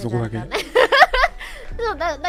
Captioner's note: Matsuri laughs